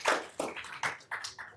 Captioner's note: applause